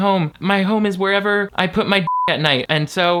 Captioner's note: beep